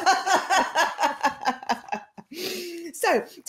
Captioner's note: laughter